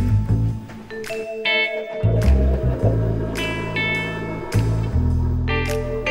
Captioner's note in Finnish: kahvinkeittimen ääniä